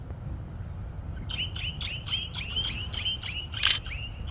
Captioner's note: birds chirping